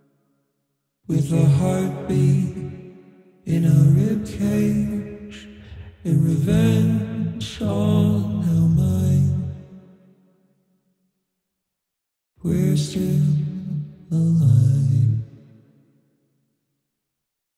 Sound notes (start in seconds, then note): 10.6 silence; 15.7 silence